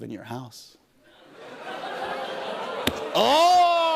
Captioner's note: audience oohs